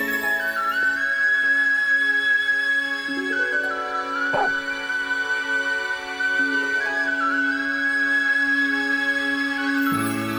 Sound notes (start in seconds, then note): 4.3 dog barking; 7.2 soft mournful music